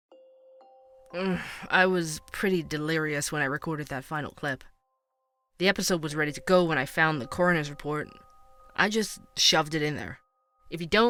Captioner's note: groan